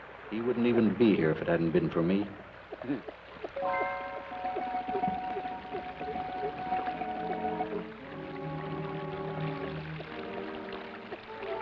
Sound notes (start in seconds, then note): 3.5 water trickles; 3.6 suspenseful orchestral music